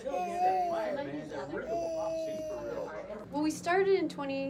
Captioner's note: baby babbling